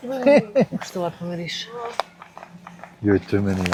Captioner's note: laughs